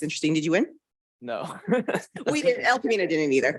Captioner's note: chuckles